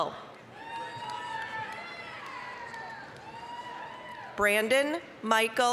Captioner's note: applause, cheering